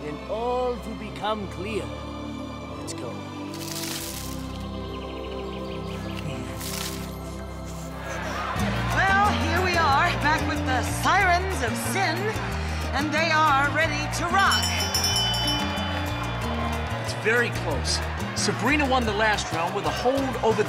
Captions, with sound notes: then all will become clear. Let's go. (crowd cheering) - Well here we are, back with the sirens of sin. And they are ready to rock. (bell rings) - It's very close. Sabrina won the last round with a hold over